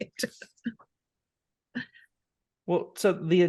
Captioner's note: laughing